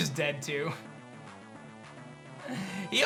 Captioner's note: giggles